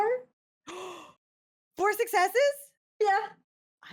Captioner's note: gasps